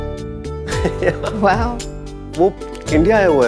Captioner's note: Udayan laughs